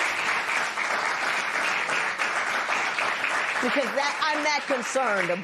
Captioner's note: applause